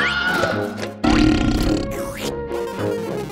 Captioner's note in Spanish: sonido de eructo